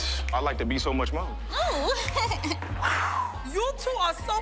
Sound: giggles; exhales

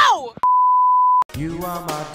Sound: TV Color Bars Sound Effect

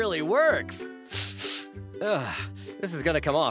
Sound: sniffing

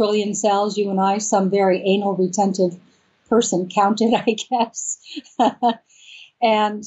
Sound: laughs

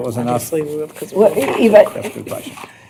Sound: indistinct chatter

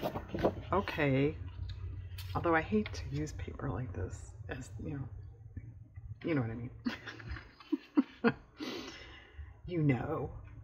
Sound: laughs

